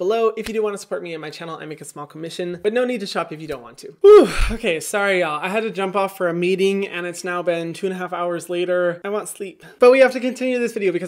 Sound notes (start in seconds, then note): 4.0 sighs